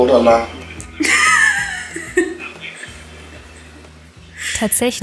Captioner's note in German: Lachen